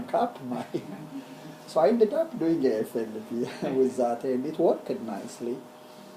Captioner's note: laugh